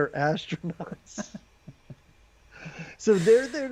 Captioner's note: both laughing